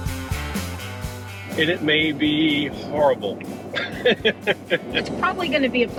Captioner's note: laughs